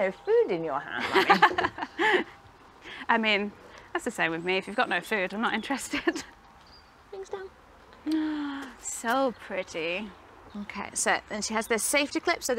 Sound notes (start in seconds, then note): 1.0 both laugh; 6.7 laughs